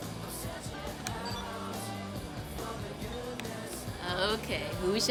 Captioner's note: phone beeps